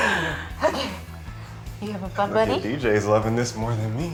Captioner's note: laughs